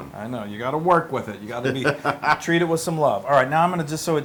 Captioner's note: laugh